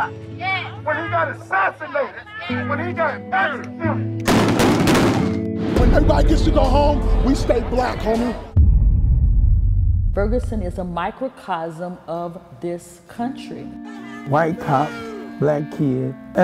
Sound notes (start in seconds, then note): 4.2 gun shots